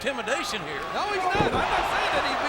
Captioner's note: mat thumping